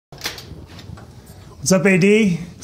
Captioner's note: door opening